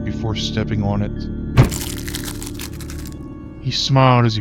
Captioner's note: stomp, crunch